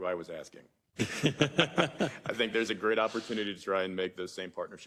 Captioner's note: laugh